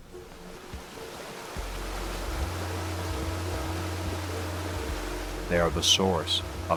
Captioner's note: gentle music; river rumbling